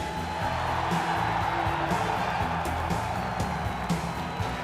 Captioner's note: crowd cheering